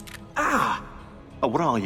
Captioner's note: Desmond screams in pain